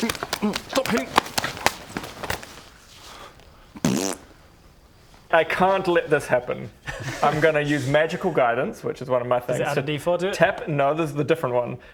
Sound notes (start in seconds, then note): 1.5 violent slaps; 3.7 pfffffpt